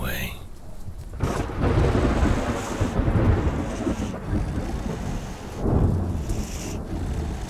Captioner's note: thunder rumbling; lightning cracking; creature breathing heavily